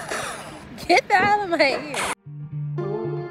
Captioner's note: laughs